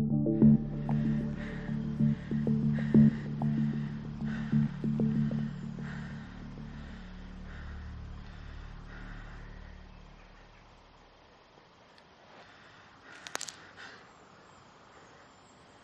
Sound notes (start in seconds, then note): 13.1 twig breaks